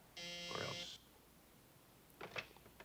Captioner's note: phone buzzing